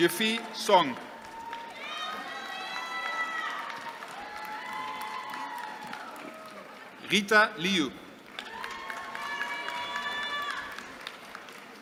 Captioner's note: applause